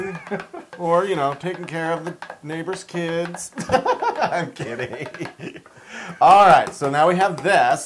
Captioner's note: laugh